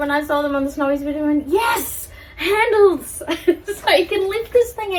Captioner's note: laughs